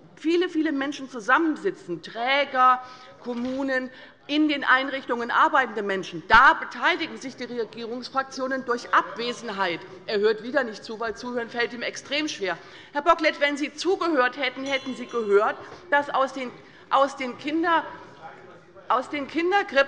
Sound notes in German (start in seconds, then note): 13.9 Unruhe - Glockenzeichen des Präsidenten